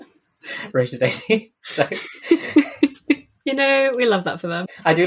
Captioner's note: laughing